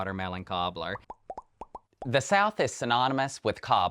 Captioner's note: graphics popping